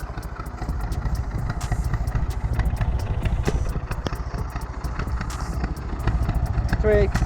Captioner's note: narrowboat engine sound